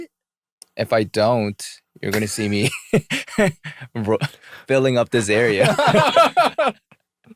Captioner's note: laughter